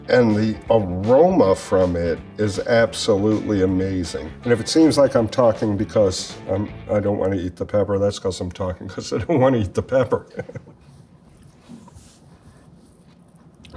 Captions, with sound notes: And the aroma from it is absolutely amazing. And if it seems like I'm talking because I don't wanna eat the pepper, that's 'cause I'm talking 'cause I don't wanna eat the pepper. [chuckles]